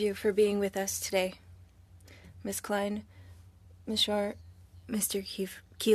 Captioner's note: speaking French